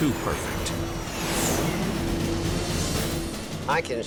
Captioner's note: engines whining